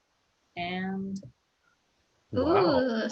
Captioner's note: gasps